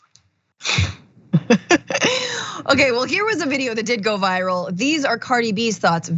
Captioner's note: laugh